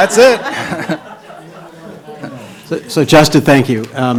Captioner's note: laughing